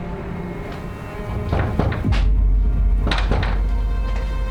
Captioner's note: knocking